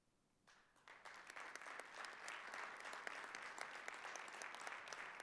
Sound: audience applauding

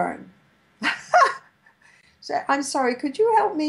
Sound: laughs

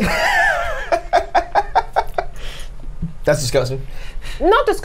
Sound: laughs

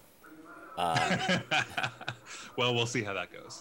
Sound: laughing

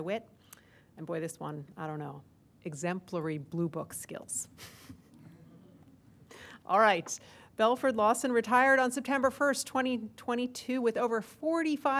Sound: laughter

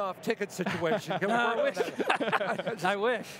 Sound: laughter

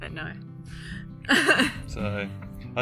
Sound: chuckles

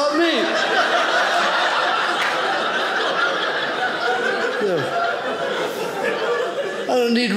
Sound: audience laughing

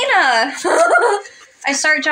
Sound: swoon

